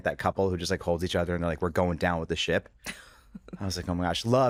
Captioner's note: chuckles